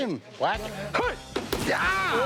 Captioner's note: Jase grunting